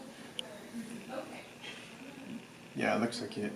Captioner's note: office noise